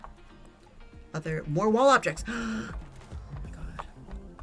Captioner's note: gasps